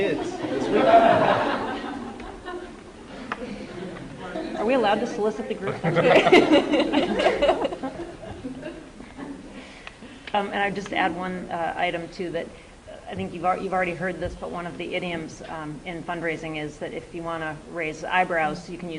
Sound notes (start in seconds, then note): 0.1 laughter; 5.6 laughter